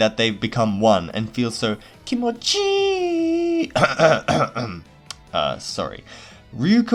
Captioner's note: cough cough